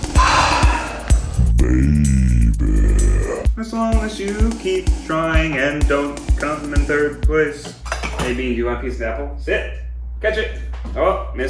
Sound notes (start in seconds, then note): 0.1 sigh; 8.1 clanking